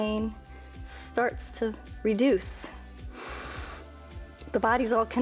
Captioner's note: inhales